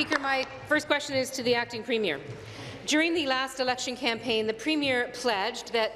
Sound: applause

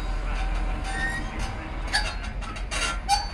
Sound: crossing gate squeaks to a stop

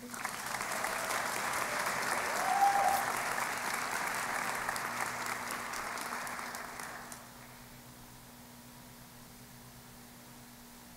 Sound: applause

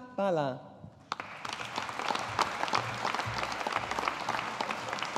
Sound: audience applauding

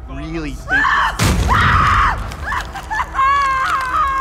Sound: screams

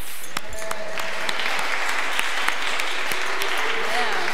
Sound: audience applause

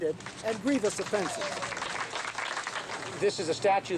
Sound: people applauding

